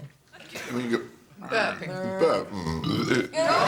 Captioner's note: burps